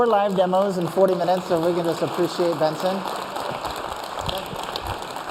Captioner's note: applause